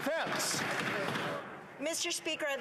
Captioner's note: applause